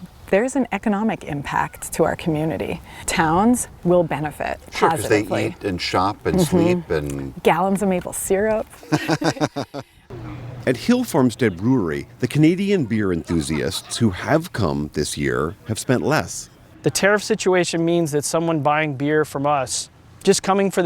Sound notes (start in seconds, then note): 8.8 laughter